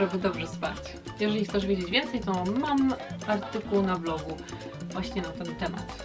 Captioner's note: in polish